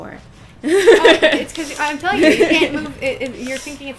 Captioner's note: laughter